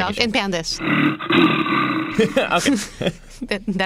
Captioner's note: growl